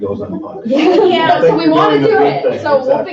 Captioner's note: laughing